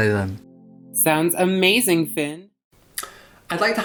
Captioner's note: voiceover